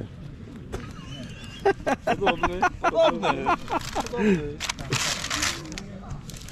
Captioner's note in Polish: śmiech